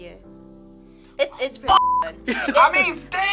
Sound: beep

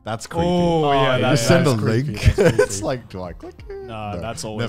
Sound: laughs

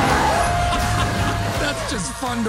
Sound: laughing

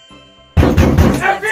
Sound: knocks door

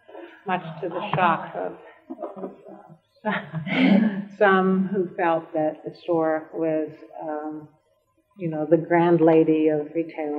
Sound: laughter

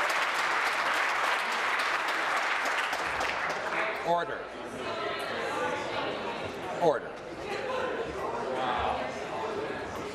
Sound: applause

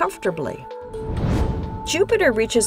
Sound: whoosh

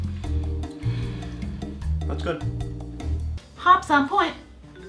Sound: satisfied sigh

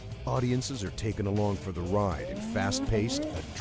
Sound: snowmobile revving; voiceover

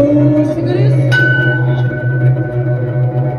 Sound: ding!

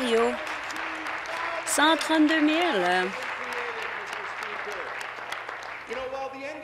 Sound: applause

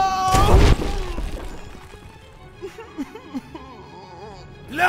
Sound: Yusuke sobbing in agony

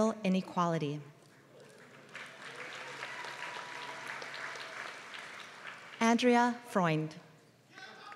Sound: applause

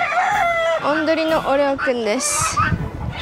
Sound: rooster

